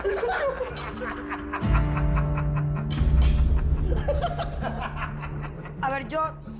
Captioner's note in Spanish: Risas